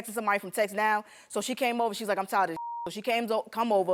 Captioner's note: beep